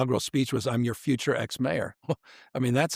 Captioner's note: chuckles